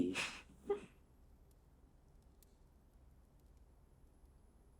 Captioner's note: Catherine giggling